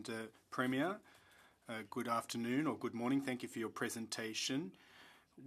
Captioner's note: speaking French